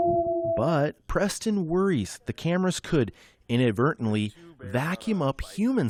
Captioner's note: voice-over